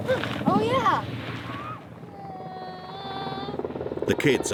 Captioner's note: helicopter whirring